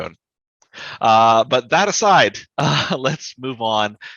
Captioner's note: chuckles